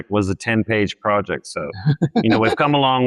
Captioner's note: laughs